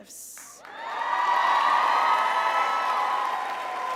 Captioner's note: crowd cheers